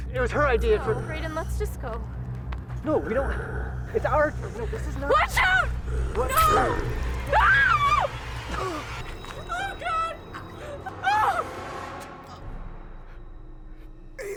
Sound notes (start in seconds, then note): 6.2 Hailey screams